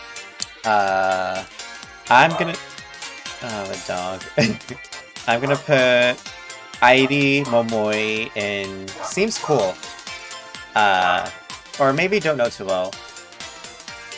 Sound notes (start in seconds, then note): 2.1 dog barks in the background; 3.4 chuckles; 8.8 dog continues to bark; 13.5 woof